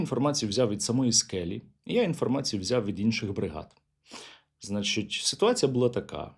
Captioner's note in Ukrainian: сопіння